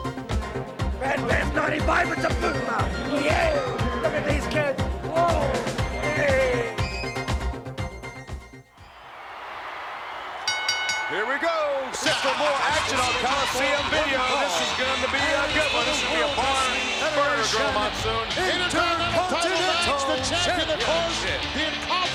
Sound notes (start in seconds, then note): 1.0 Bushwhacker vocalizing; 6.3 upbeat music; 9.4 audience cheering